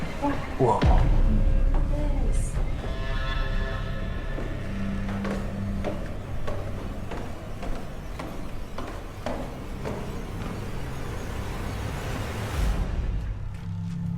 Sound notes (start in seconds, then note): 5.4 echoing footsteps